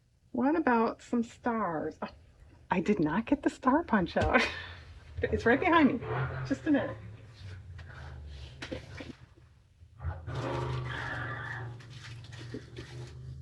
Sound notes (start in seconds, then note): 4.0 laughs